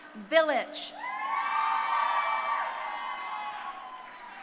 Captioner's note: crowd cheering